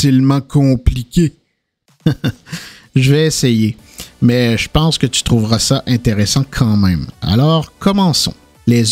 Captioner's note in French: rires